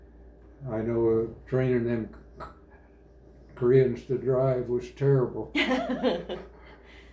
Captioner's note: laughter